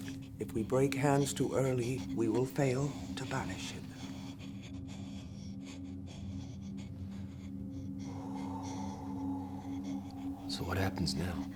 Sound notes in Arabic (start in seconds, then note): 4.5 تنفس بصعوبة; 8.5 زفير كثيف